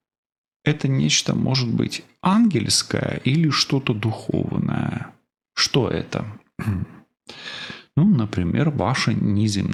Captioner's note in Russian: откашливается